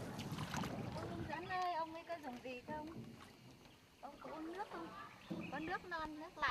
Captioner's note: speaking in foreign language